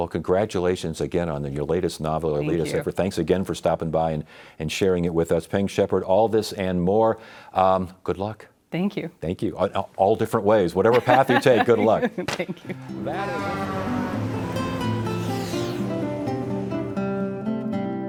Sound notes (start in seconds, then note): 14.7 laughs; 16.2 gentle music